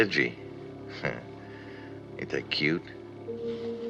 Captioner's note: chuckles